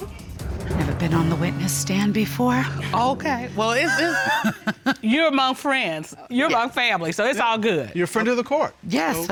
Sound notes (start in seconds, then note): 3.8 chuckles